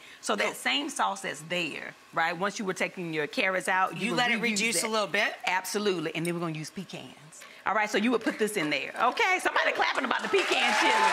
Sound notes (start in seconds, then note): 9.2 faint audience clapping